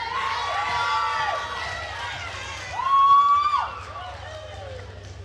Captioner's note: attendees cheering and applauding